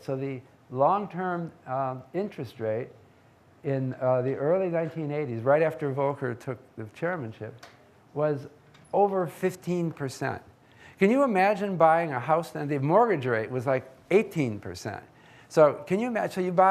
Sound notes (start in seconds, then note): none